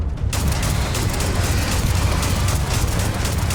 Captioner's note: dramatic music; gunshots